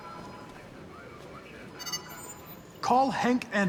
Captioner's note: chime